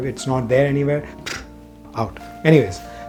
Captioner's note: flutters lip